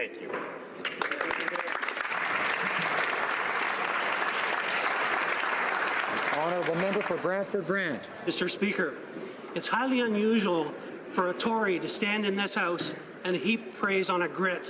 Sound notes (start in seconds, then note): 5.3 applause